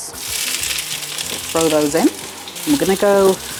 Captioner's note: sizzle